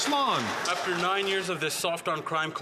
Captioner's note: some Applause